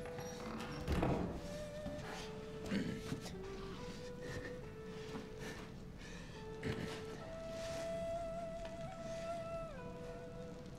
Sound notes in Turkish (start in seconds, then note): 4.9 Nefes sesi